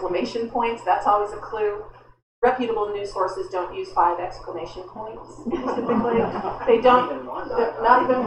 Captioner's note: laughter